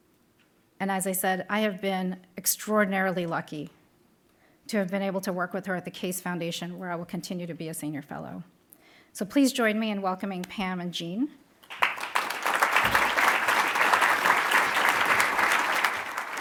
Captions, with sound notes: And as I said, I have been extraordinarily lucky to have been able to work with her at the Case Foundation where I will continue to be a Senior Fellow. So please join me in welcoming Pam and Jean. (applauding)